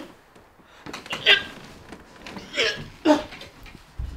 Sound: retches

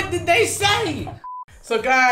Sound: electronic beep

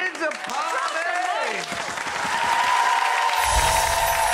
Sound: audience cheers; wind chimes

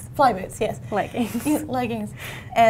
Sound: laughs

